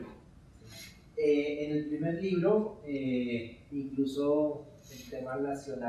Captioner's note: speaking in Spanish